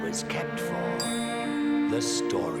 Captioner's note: clinks